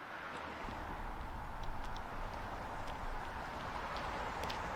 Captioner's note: traffic roaring